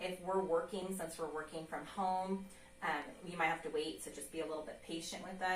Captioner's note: none